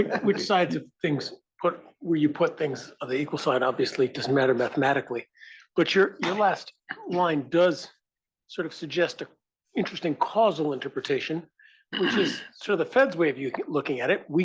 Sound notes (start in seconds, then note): 11.1 cough